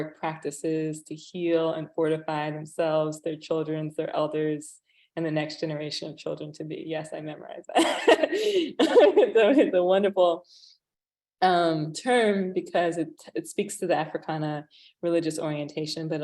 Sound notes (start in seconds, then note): 7.8 laughs